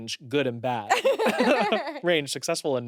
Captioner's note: everyone laughs